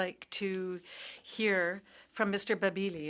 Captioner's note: speaking French